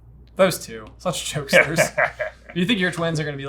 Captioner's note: laughing